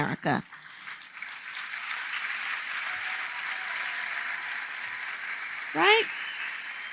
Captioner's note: applause